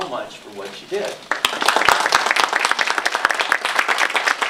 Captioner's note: applause